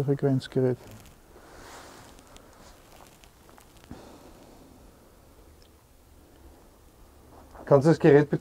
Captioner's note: silence in the background